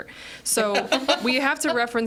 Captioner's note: group laughs